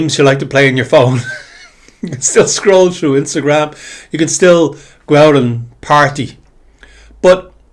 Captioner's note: laughter